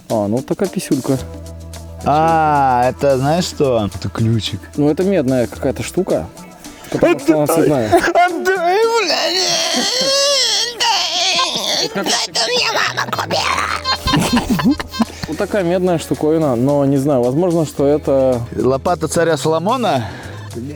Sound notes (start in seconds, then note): 8.6 whimpering; 13.1 portrays a child / friendly laughter